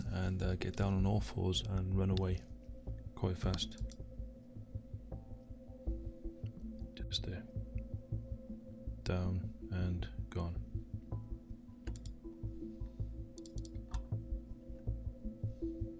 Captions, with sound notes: and get down on all fours and run away quite fast. Jumps there, down and gone. (clicking)